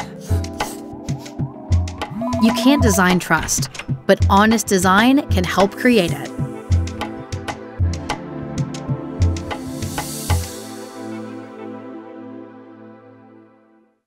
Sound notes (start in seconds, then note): 0.2 pencil scratching; 2.2 phone ringing; 6.9 mysterious music